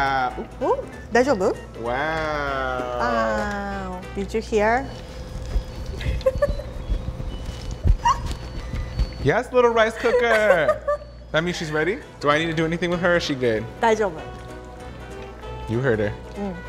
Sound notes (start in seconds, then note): 5.0 rice maker beeping; 5.9 laughs